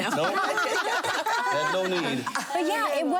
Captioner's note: laughing